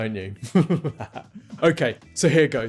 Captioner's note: chuckles